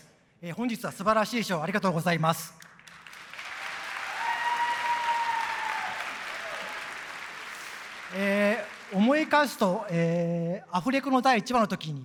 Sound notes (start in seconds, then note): 2.6 applause and cheering